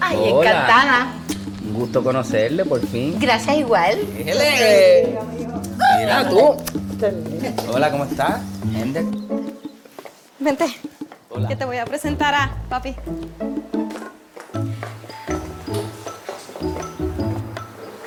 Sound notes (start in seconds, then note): 1.2 kiss